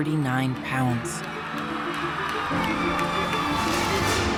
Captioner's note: audience applauding